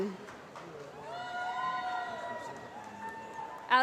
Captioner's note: applause